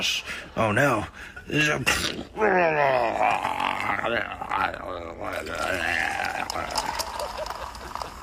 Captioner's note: grunting